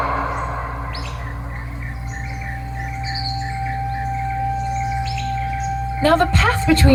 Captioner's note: nature ASMR